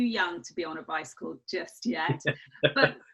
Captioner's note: laughs